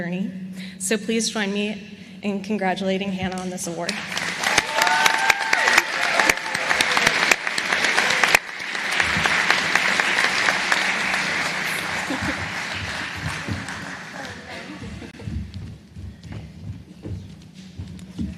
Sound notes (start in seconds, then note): 3.9 applause